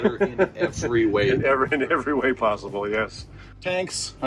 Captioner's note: chuckling